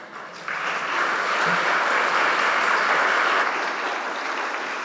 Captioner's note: audience applauding